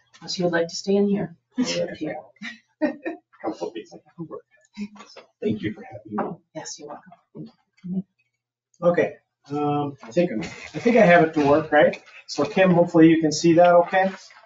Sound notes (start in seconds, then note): 2.9 people speak distantly